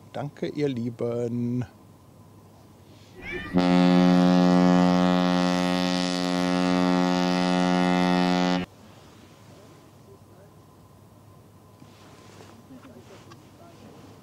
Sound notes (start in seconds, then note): 3.2 laughter